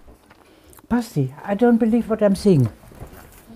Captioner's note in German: Sie spricht englisch